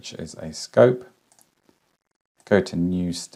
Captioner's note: mouse clicking